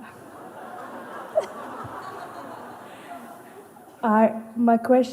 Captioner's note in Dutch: gelach